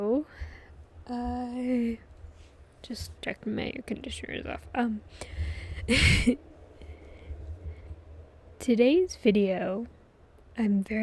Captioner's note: laughs